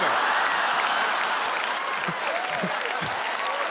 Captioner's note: audience Cheerin